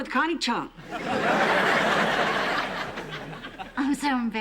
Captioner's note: laughter